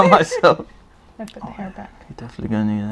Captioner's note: laugh; whispers